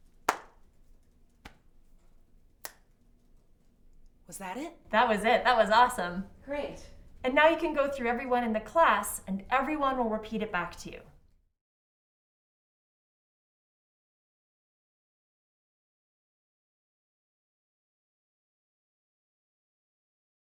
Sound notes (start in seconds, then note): 0.0 feet lightly stomping; 0.2 hands clapping; 2.6 fingers snapping